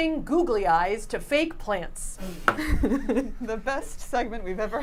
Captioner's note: chuckles